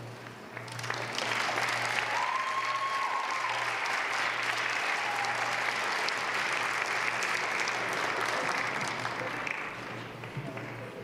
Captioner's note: applause